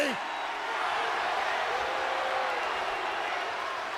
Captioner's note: crowd booing